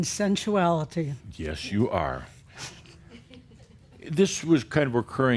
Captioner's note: a few chuckles